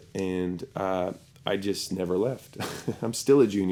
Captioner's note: chuckles